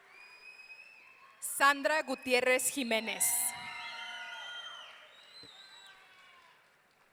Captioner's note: audience cheering; audience cheering